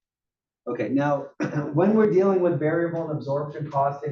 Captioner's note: cough